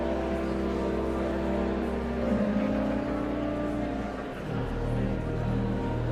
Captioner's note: sanguine organ music continues; audience chattering continues